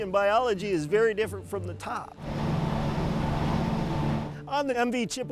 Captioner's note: motorboat engine revving